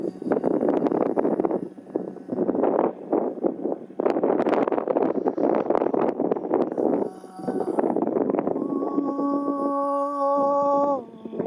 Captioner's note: chanting